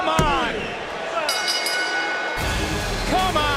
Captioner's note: bell rings